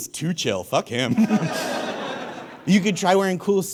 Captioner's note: audience laughs